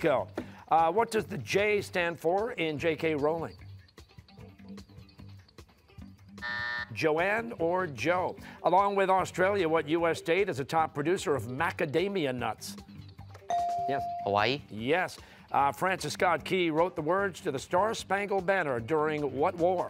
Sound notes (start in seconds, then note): 6.4 buzzer